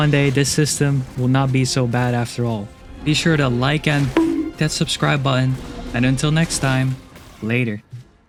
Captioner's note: bonk